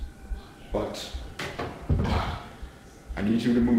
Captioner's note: sigh